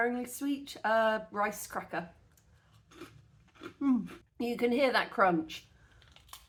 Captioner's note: crunch